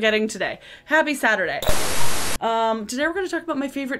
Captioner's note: film static